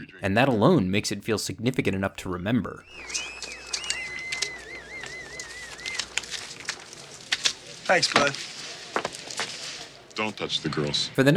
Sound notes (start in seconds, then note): 2.6 people whistling